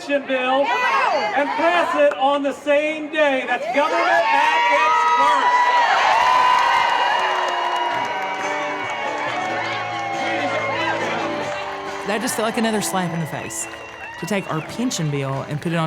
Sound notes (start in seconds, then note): 4.9 cheering